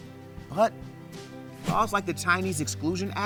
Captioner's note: text whooshes